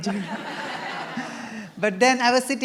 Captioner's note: laughter